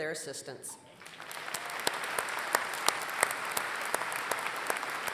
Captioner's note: applause